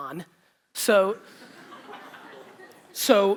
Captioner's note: audience laughter